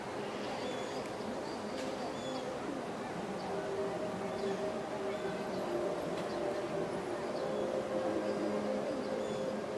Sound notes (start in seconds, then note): 1.2 people chattering continues; 2.7 gentle music continues